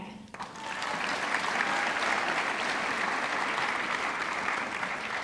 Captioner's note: audience clapping